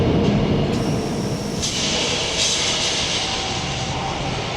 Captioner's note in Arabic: هواء ينفخ